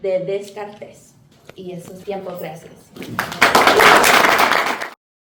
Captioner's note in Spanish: aplauso